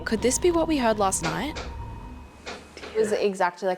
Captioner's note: creaking